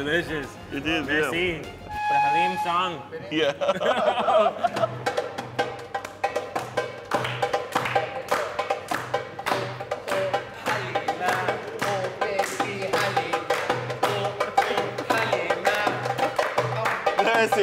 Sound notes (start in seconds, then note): 1.8 flute whistles; 3.4 laughing